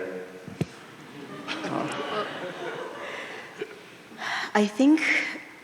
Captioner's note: audience laughing